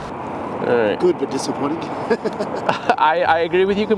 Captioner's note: laughs